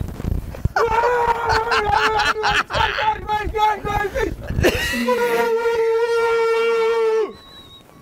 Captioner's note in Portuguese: gritando